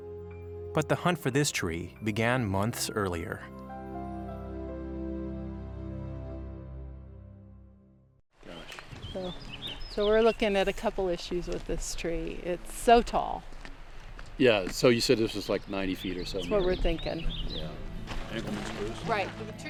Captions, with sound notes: but the hunt for this tree began months earlier. (light music) (birds chirping) - So we're looking at a couple issues with this tree. It's so tall. - Yeah, so you said this was like 90 feet or so. - That's what we're thinkin'.